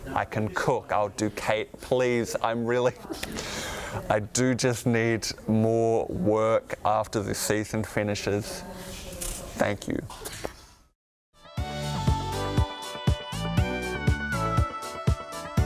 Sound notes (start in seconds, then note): 3.1 breathes heavily